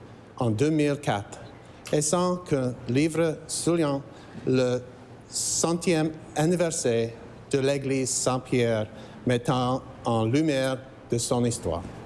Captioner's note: speaking french